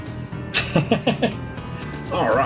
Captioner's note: chuckles